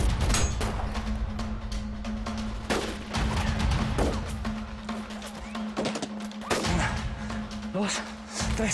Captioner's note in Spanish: Disparos